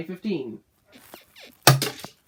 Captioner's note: bed squeaks